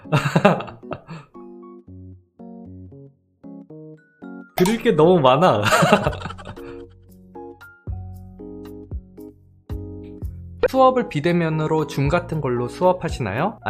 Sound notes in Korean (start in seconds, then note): 5.6 웃음